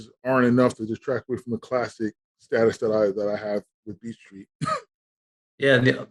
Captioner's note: laughing